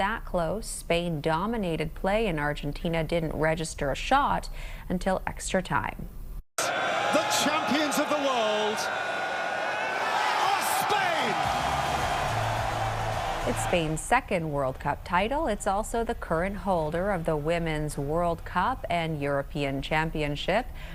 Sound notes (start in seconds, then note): 14.7 applause